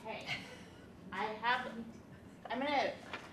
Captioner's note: woman laughs